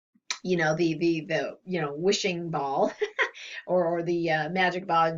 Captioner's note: laughs